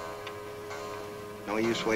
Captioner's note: clock chimes